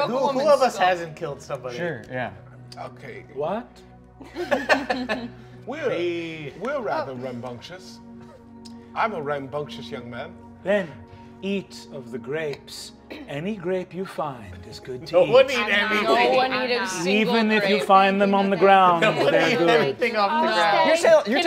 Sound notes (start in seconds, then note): 4.2 all laughing